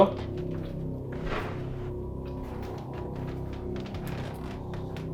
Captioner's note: object thuds